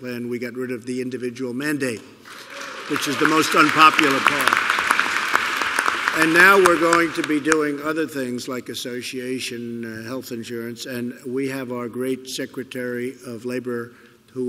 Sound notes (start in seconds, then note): 4.9 applause